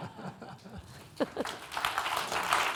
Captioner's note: laughing; audience applauding